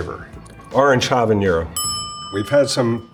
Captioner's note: bell dings